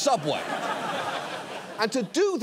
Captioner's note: audience laughs